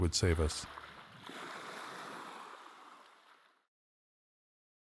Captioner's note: waves lapping on shore